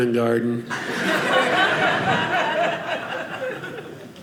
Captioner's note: audience laughing